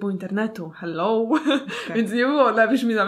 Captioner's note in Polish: śmiech